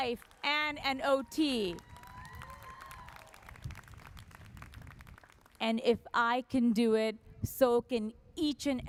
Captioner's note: applause